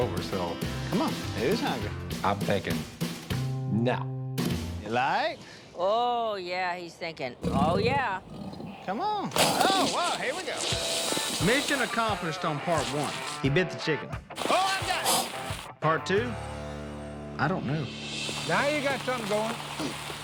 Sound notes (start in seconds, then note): 7.4 growling; 14.3 hissing